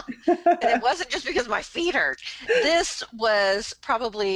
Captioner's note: laughs